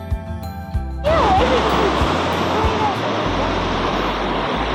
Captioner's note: waves crashing